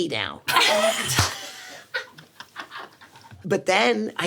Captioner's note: Sarah and SungWon laughing